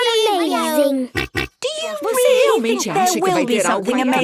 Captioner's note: snorts